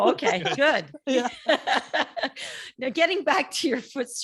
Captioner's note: laughing